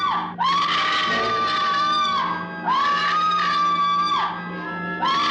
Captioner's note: person screaming